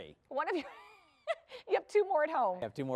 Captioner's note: laughter